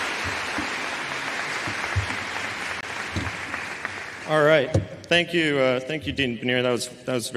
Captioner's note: applause